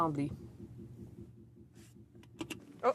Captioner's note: speaking in french